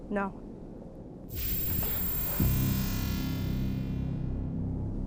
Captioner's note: zapping